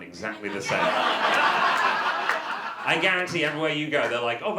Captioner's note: audience laughter